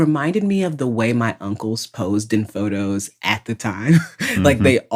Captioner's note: laughs